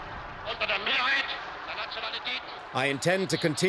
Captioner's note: Hitler speaking German